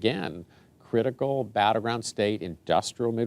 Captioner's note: none